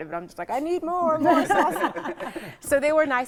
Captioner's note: laughing